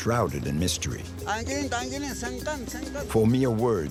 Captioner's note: Spanish spoken audio